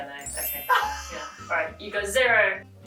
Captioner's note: laughing